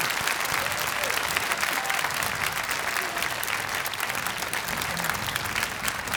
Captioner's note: audience applauding continues